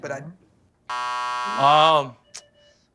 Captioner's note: buzzer